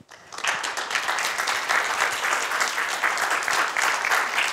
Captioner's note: audience applauds